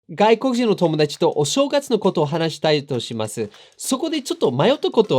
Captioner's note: speaking in foreign language